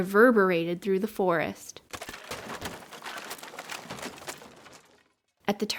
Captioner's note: cracking noise